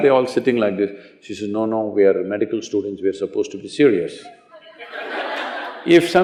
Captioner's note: laughter